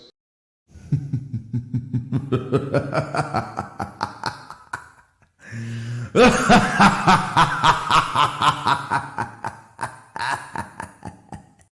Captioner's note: hah, hah, hah